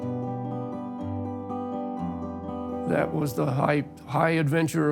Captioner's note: in English